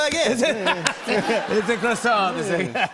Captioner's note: laughter